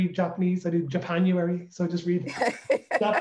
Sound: laughs

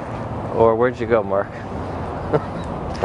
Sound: laughing

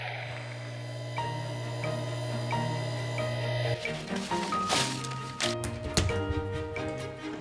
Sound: machinery whirring; soft music

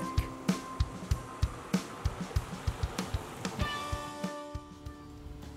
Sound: car Drives Past

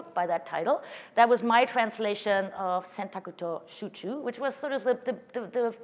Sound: speaking japanese

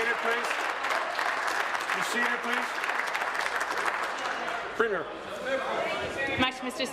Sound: applause

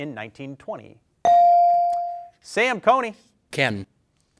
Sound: bell dings

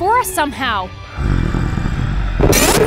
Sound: grunts

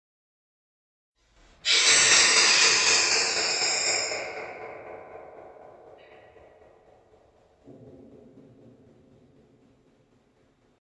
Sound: sound of mysterious creature

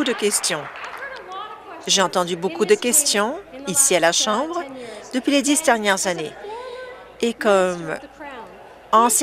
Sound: some Applause

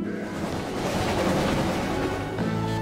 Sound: engine Chugging

